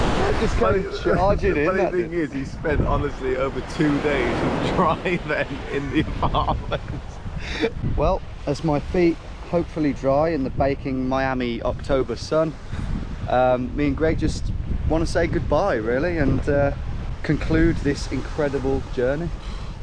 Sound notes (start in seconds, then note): 5.0 laughs